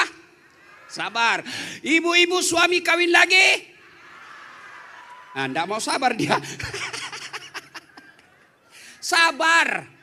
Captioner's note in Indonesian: tertawa